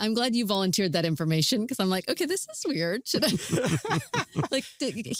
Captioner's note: laughter